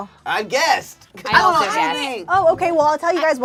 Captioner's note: overlapping chattering